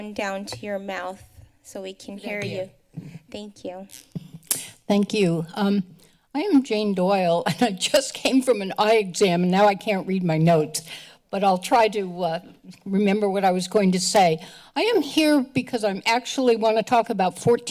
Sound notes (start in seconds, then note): 4.4 tongue clicking